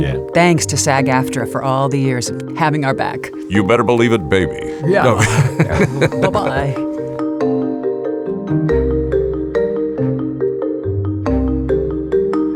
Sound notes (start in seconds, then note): 4.6 laughs; 7.5 gentle music